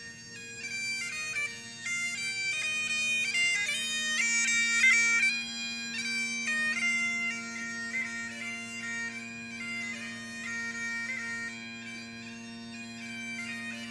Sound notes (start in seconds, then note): none